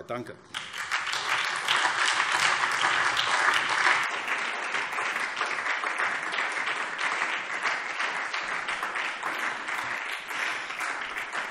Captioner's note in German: Beifall SPD